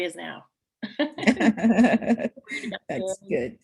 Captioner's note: laugh